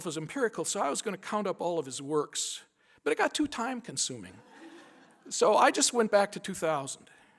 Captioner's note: laughter